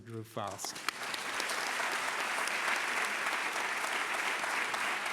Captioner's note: applause